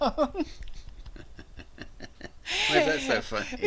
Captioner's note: both laugh hilariously